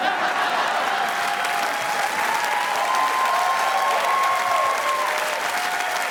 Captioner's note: audience applauding; crowd cheering